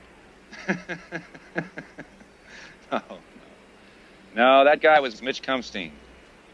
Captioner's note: laughs